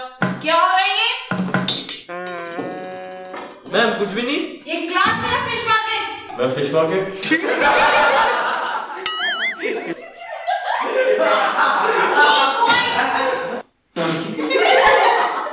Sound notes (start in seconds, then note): 7.3 laughing